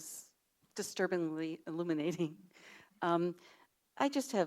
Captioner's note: chuckles